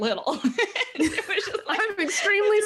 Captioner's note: laughing